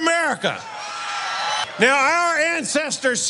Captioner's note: applause